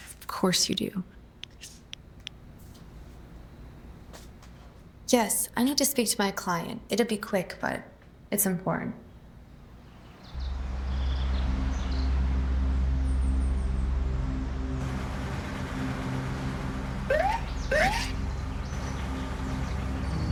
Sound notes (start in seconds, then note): 10.5 suspenseful music; 15.5 engine purring; 17.1 siren beeping